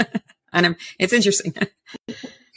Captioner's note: chuckles